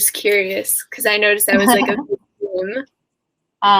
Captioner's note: laughs